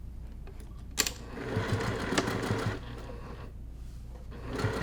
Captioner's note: machine whirring